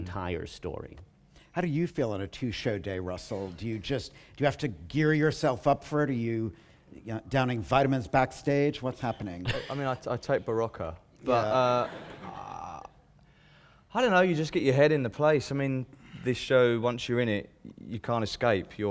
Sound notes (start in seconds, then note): 9.4 laughter